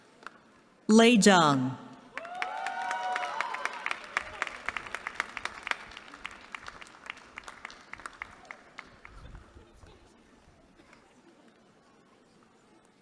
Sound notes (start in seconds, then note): 2.1 applause